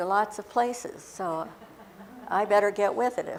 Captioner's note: laughter